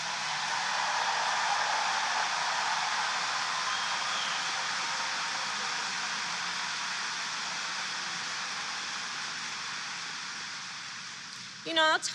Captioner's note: applause